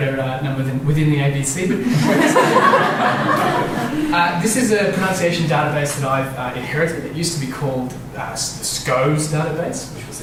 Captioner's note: laughter